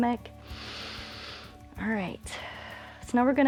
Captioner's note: inhales